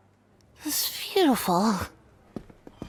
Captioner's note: slurring